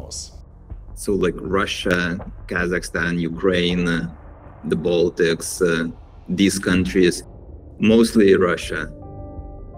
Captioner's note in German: fremdsprache 00:04:25